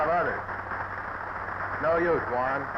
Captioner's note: audience applauding